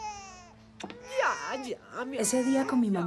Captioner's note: mother cooing